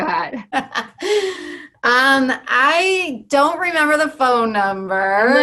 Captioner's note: laugh